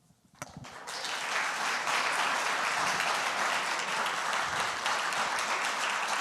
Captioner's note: audience applauds